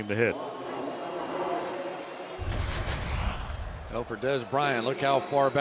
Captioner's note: pa announcement